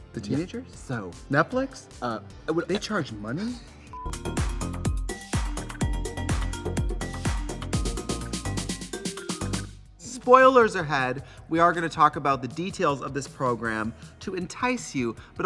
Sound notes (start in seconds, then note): 3.0 Katya laughs; 3.9 fun music